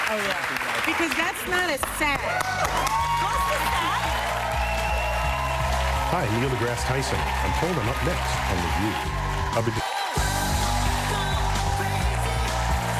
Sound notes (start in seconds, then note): 0.0 applause; 3.8 cheers and applause